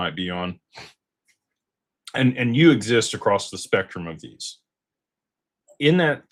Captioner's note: snorts